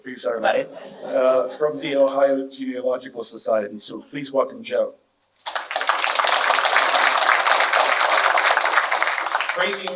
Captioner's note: clapping